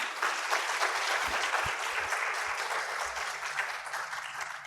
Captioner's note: audience applauding